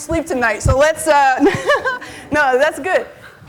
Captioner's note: laughs